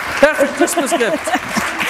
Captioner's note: laughter